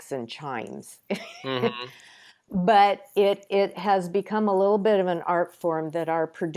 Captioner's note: chuckles